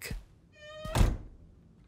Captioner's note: door creaks